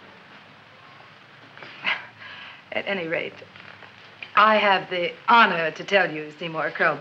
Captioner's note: chuckles